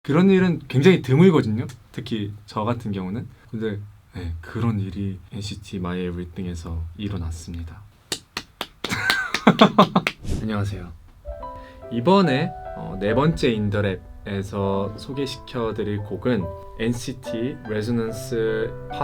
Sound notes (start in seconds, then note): 8.1 clapping